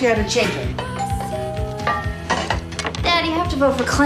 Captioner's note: doorbell rings